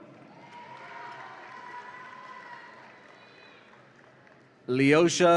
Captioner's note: audience applauds and cheers